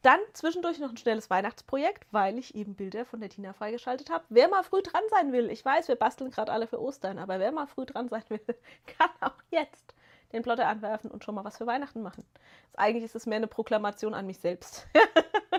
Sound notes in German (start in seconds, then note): 8.8 gelächter